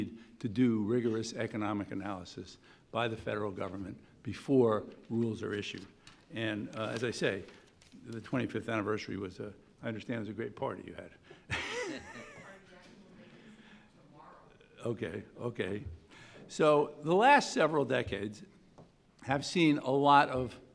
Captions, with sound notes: to do rigorous economic analysis by the federal government before rules are issued, and as I say the 25th anniversary was, I understand it was a great party you had (laughs). (woman calling out from audience) Okay, okay. So the last several decades have seen a lot of,